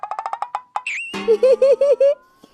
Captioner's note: sudden laugh